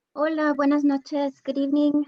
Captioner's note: speaking in Spanish